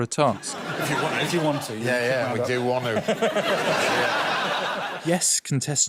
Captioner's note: laughter